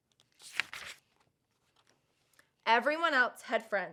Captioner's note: paper rustles